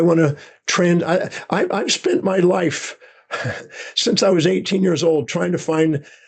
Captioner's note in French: rires